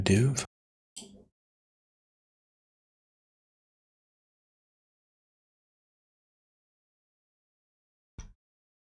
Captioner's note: silence